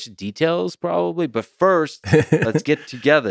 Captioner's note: Tim laughs